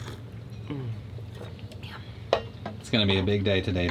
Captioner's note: sips; hums in admiration